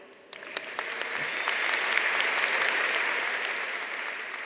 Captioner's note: audience applauding